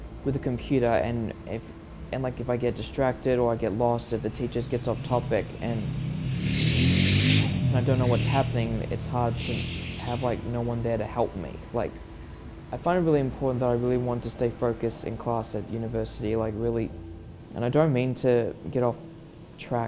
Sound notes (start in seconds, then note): 6.2 loud motocycle